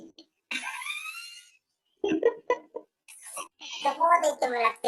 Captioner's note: laughs